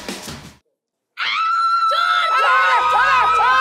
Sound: shrieking

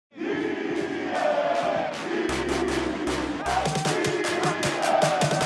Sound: cheering

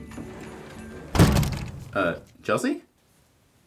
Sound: door slams

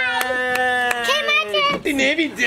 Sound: applauding

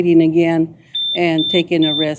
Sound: beeping

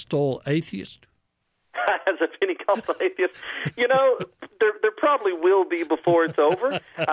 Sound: laughter

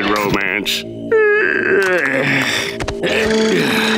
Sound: yawning

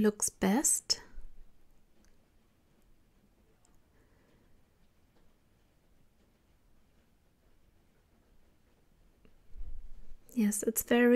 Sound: long awkward silence

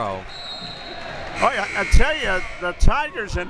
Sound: buzzer

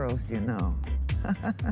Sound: laughter

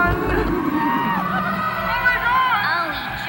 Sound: laughter continues

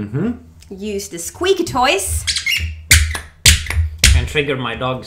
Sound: squeaking

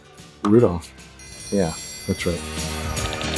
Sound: bell ringing; upbeat holiday music; keyboard typing

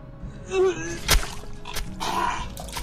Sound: loud vomiting

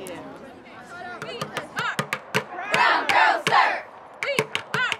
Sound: chanting

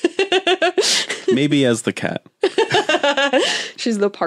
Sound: laughs; both laugh

